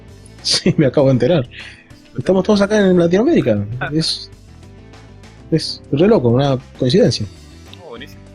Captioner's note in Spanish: risas